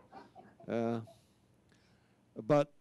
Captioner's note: audience laughs